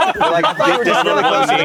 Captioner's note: everyone laughs